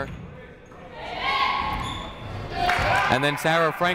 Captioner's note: people shouting in the crowd